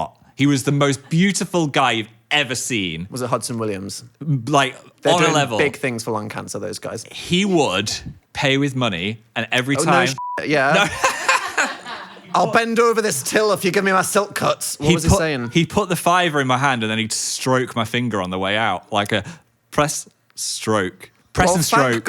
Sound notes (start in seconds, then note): 10.7 laughing